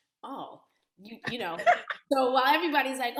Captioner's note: laughter